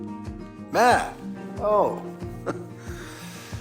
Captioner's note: chuckles